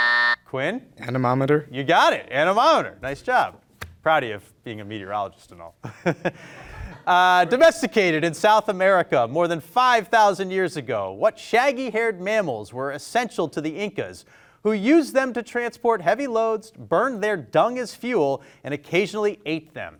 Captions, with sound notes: Quin. - Anemometer. - You got it, anemometer. Nice job. Proud of you of being a meteorologist and all. (everyone laughing) Domesticated in South America more than 5,000 years ago, what shaggy haired mammals were essential to the Incas who used them to transport heavy loads, burned their dung as fuel and occasionally ate them?